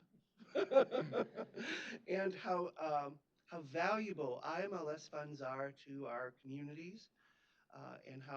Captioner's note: laughs